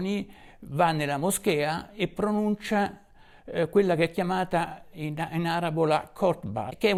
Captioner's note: Arabic